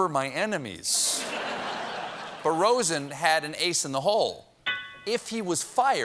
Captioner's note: laughter